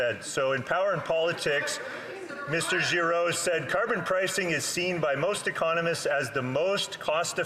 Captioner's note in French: voix de l'interprète